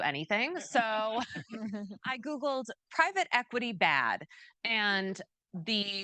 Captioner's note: chuckles